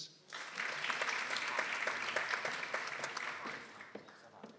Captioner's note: people applauding